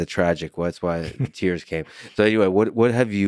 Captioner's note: laughs